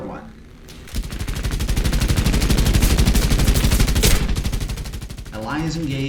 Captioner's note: aircraft Engines ,Gunfire, Flying Sounds